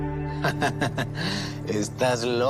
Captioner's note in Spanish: Nébula ríe